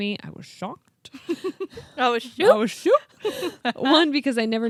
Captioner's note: chuckles